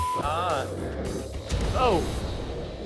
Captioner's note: sizzles